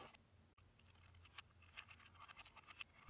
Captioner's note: whirring continues